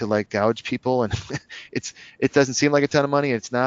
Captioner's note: laughs